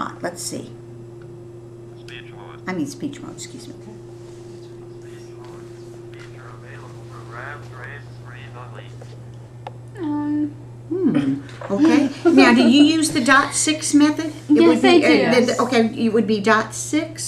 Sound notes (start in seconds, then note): 6.2 Electronic voices of calculators